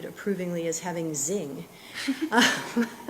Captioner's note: laughter